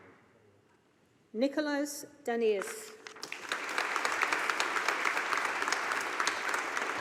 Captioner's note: audience applauding